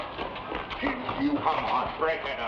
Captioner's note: man chokes